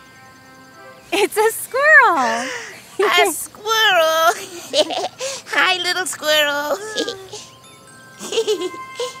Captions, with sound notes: - It's a squirrel! - (gasps) A squirrel (laughs)! Hi little squirrel (laughs).